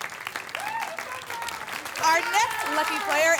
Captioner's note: applause and cheering